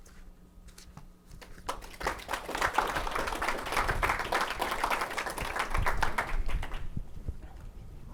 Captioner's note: applause